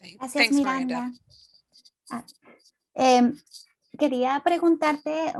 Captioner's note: speaking in Spanish